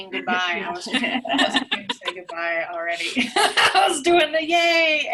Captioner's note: laughter